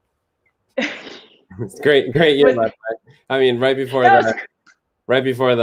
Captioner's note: laughter